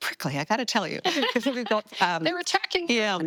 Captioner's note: laughing